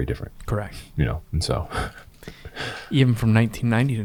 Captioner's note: chuckles